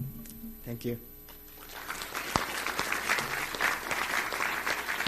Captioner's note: applause